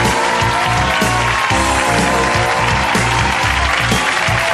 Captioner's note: audience cheering